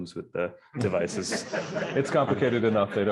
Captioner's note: laughter